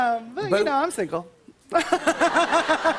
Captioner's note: laughter